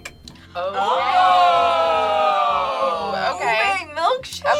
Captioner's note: word twinkles; group awes